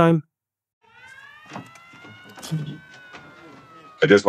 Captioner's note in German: Tür knarrt auf